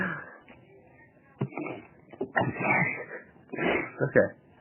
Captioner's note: sniffles